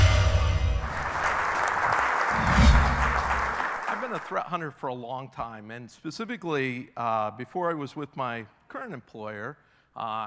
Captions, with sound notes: (audience clapping) - I've been a threat hunter for a long time. And specifically, before I was with my current employer,